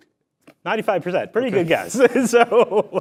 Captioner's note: laughs